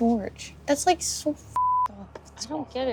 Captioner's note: beep